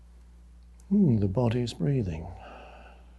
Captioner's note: exhales